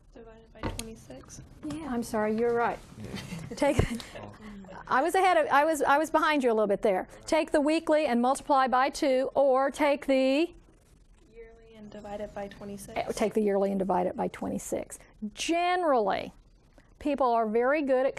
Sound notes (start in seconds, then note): 3.0 students chuckling